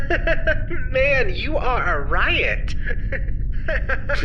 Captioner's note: continues to laugh